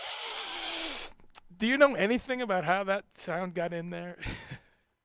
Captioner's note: laughing